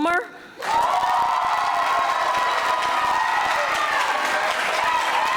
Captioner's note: audience applauding